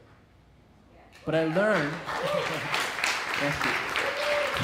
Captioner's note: crowd cheers